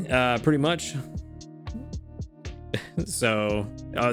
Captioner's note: chuckles